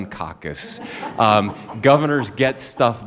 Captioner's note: laughter